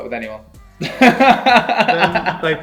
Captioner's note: laughing